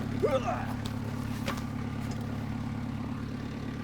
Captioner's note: grunting